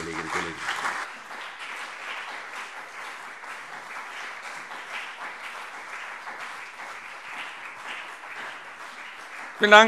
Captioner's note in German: Beifall CDU und BÜNDNIS 90/DIE GRÜNEN